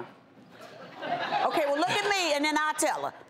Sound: audience laughter

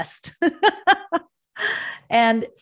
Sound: laughs

